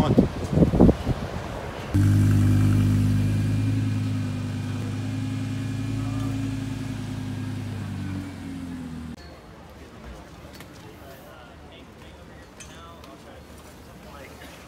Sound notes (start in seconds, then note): 1.9 car engine; 10.5 chatter